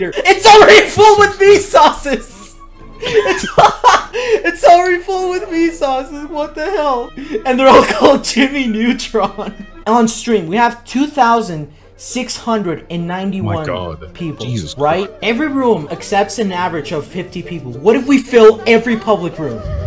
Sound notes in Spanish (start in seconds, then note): 3.0 Risa xd